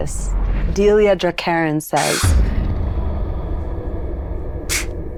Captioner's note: exhales